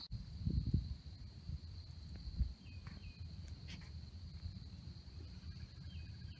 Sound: crickets and birds chirping

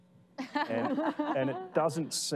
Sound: laughing

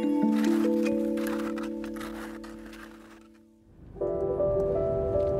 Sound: ambient music; skis scraping against snow; ambient music

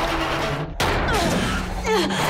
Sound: thudding

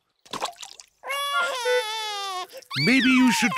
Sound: cries

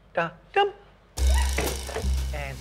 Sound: squeals

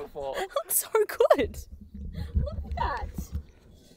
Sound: laughs

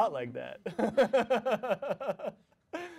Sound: chuckles

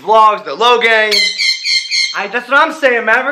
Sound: screeches

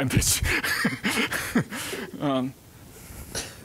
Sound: laughing

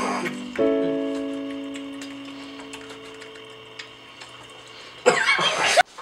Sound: moist Romantic Squelching

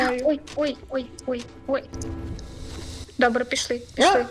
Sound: lots of "ouchs"

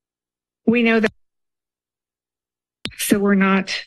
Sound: audio cuts

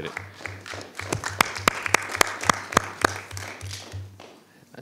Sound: attendees applauding

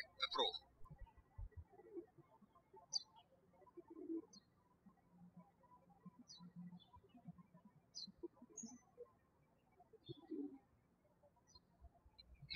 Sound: birds chirping

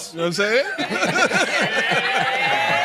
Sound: laughter

